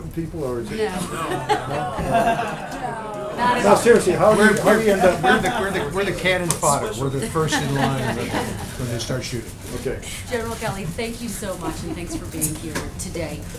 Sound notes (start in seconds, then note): 0.8 laughter